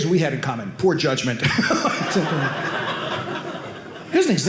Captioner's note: audience laughing